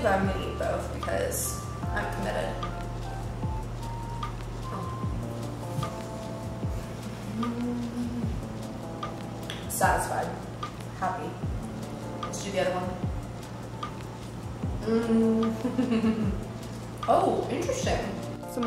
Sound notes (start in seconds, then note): 3.0 sultry R&B music; 7.4 moaning; 15.5 giggling